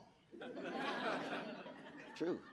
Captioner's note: audience laughing